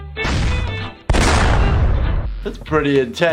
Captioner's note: bomb explodes; gun shots